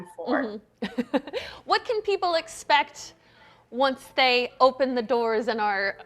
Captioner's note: laughs